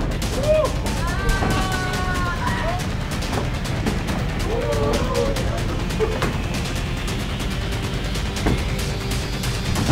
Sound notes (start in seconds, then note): 0.2 crowd cheering; 4.8 crowd